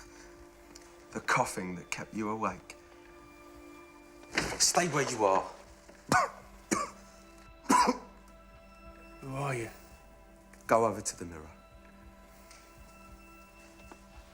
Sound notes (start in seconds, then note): 5.9 coughing